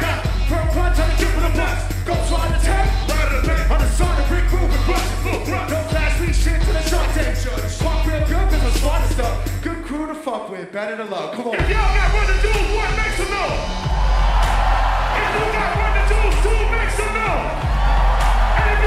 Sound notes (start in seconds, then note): 13.7 audiences cheers; 17.4 audiences cheers